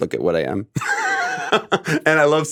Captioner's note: chuckles